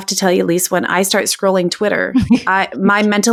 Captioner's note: laughing